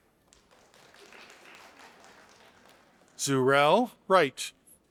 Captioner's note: audience applauding